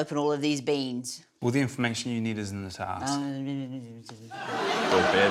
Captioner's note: murmurs mockingly